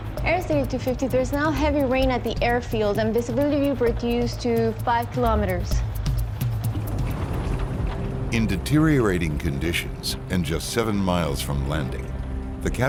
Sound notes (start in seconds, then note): 5.9 airplane engine roaring